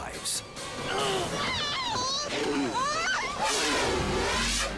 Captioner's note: grunts; screams; dramatic music